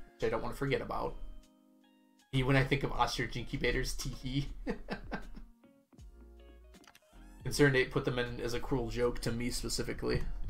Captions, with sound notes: which I don't want to forgot about. "Me when I think of Ostrich Incubators: Teehee," (laughs) ConcernedApe put them in as a cruel joke to me, specifically.